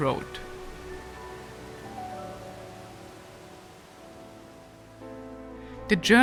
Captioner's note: gentle music; water sloshing